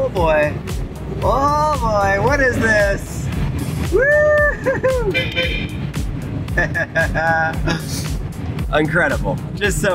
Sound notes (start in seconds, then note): 5.0 horn honking; 6.5 laughing